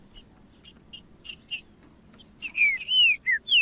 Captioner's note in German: trinca ferro cantando